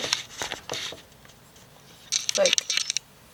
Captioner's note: camera makes noise